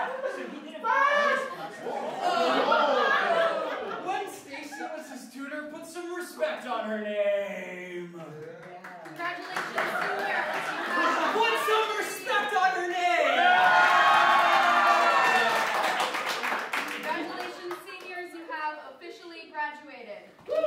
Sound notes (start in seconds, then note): 8.4 measly cheers for Gwen; 13.5 more enthusiatic cheers